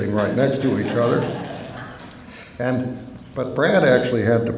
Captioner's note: laughter